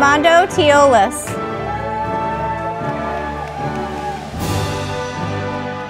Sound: audience applauding

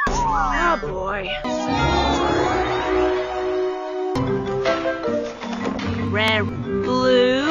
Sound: wild pokémon sounds punctuate the dub score

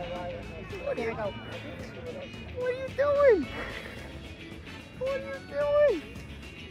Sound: laughs; upbeat music

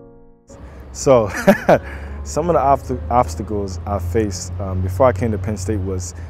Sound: laughs

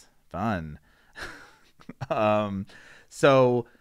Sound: laughs

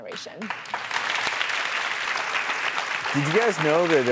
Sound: applauding

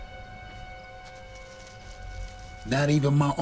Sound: grass rustling

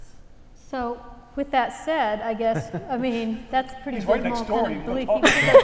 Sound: laugh; laugh

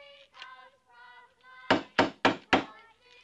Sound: knocking on door

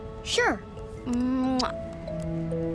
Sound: kissing

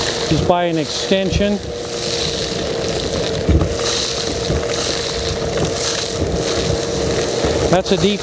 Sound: vacuum sucking up dirt sound

